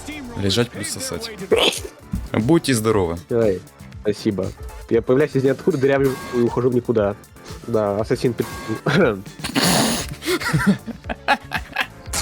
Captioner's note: sneeze